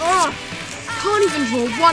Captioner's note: paper ripping